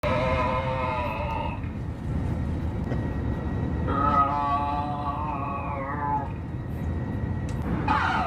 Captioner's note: groaning over plane's PA system; groaning continues